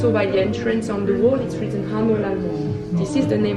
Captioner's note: speaks in foreign language